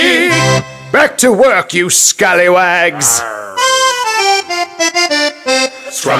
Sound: pirates grumble

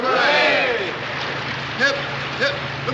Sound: aircraft approaches

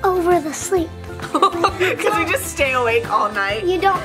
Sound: laughs

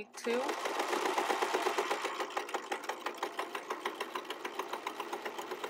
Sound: sewing machine clattering

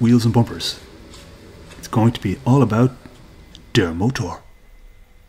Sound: IN GERMAN: The Engine

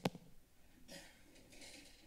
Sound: coughs

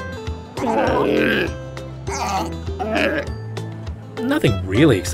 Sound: otter / seal/ sea lion noises

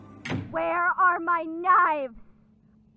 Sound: KOTONOHA slams door shut

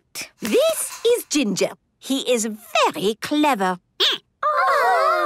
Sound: squeaking

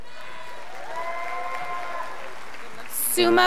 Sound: scholars applauding

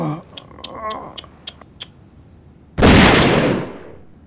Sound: clicks tongue

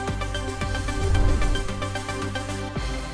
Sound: animation swooshing; upbeat instrumental music

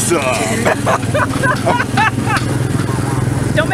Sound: laughs

